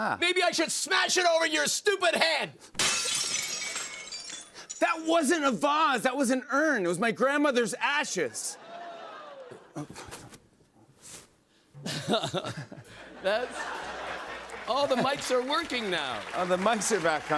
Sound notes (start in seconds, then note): 2.7 vase shatters